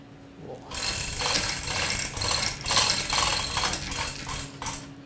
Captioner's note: chain clanking